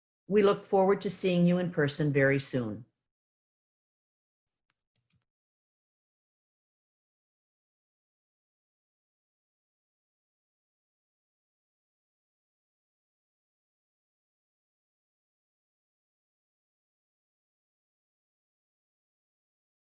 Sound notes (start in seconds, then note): 5.7 silence